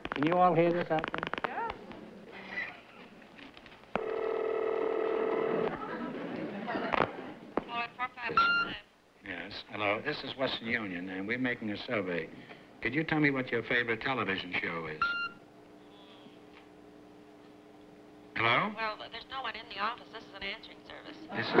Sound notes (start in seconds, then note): 5.2 ringing; 7.7 on phone